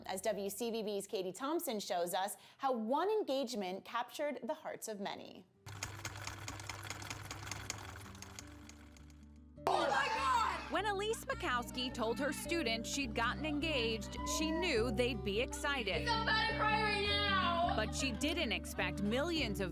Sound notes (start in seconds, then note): 5.7 typewriter keys clack